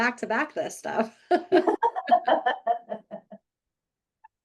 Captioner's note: both laughing